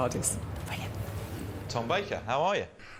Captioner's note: whispers